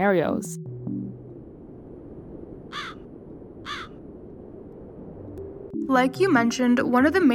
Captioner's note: wind blowing, crows chirping